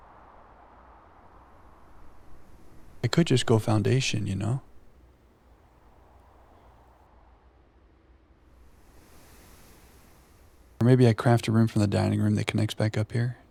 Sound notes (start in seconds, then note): 7.6 wind howling